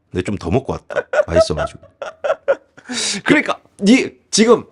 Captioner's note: laughs